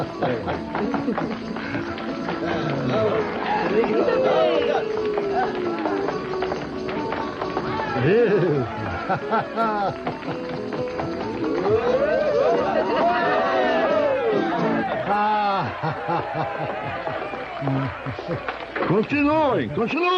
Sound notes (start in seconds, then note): 14.3 cheering